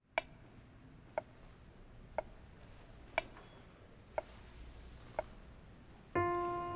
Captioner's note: metronome ticks steadily